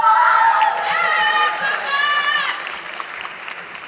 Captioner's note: audience clapping